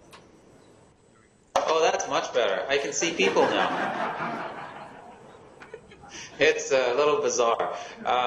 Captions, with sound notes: - Oh that's much better, I can see people now. (laughing) It's a little bizarre.